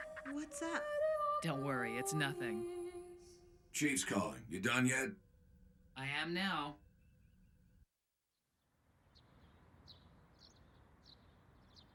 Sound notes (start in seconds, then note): 0.0 grunts; 3.8 over comms